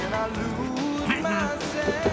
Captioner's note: clears throat